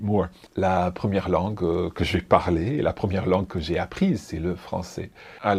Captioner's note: speaks in foreign language